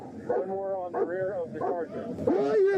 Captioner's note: radio chatter